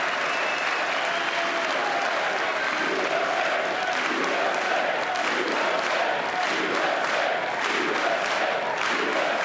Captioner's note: applause